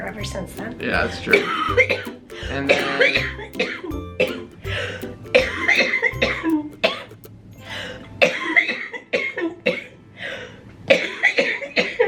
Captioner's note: coughing